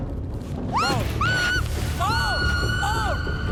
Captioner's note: screaming